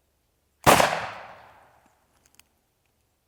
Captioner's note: gun shooting